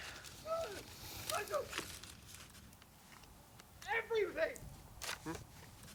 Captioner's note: screaming